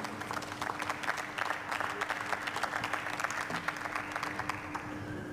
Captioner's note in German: Beifall